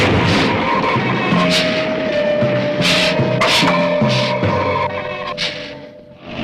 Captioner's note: explosion booming; suspenseful music; lizard hissing